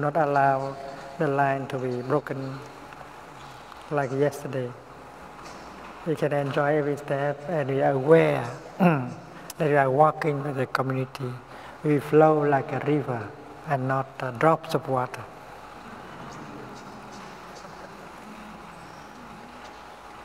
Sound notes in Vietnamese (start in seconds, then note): 17.0 tiếng cười